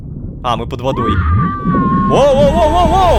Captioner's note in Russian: Немой крик